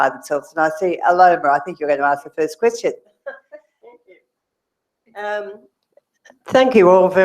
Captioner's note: laugh